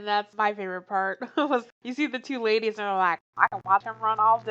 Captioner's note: laughs